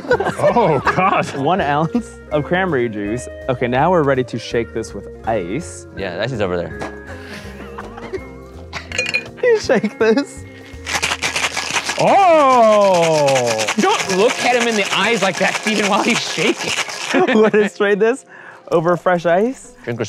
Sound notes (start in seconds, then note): 10.6 ice cubes cracking